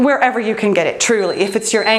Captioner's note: timer beeps